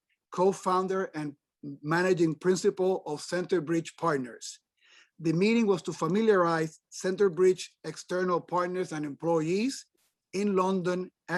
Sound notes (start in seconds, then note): none